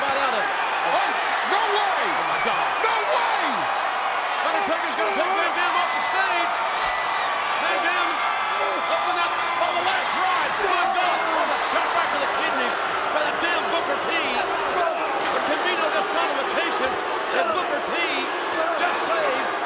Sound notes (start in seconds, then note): 10.0 presenter speaking faintly off mic